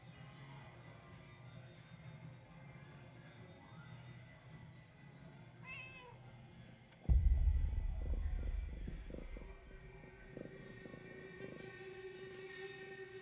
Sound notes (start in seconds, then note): 7.2 cat purring